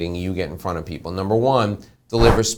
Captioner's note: whooshing